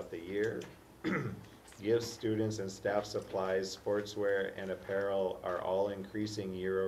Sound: cough

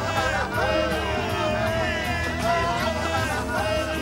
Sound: cheering

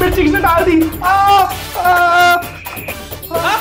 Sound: shouting

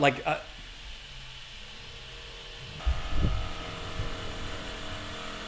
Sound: construction tools whirring

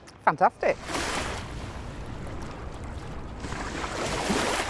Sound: water splashing

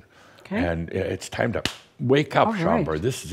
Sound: slap!

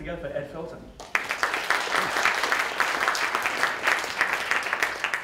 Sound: audience applauds

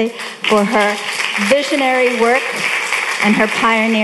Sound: audience applauding

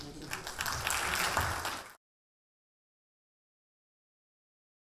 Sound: audience applause

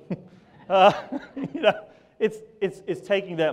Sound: laughs

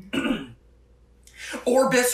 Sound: clearing throat

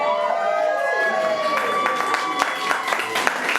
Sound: all applauding

